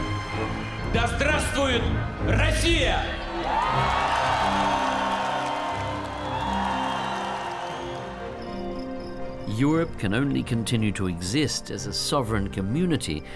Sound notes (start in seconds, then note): 3.2 cheering, applause